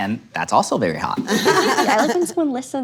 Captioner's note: everyone laughs